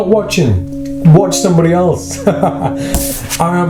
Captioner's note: laughs